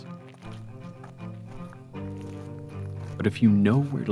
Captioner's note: footsteps